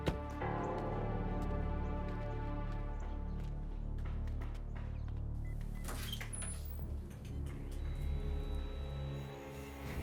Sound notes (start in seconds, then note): 0.2 car door shuts; 5.6 beeping